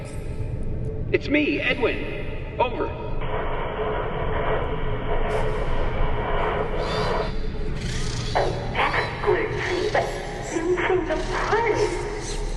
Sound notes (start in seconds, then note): 3.2 static